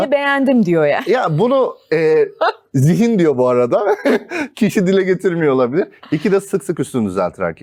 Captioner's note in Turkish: kahkaha